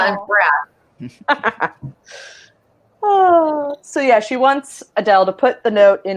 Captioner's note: laughs and sighs